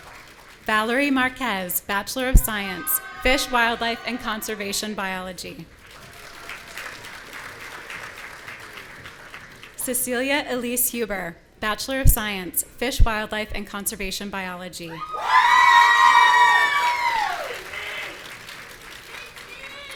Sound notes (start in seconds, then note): 5.7 audience applauding; 15.0 audience cheering and shouting